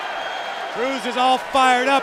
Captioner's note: cheers & applause